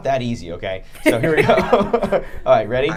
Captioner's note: laughing